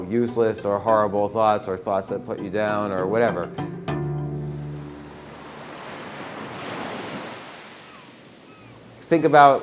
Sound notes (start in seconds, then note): 4.3 ocean sounds; 8.5 seagulls chirping